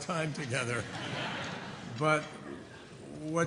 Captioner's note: laughter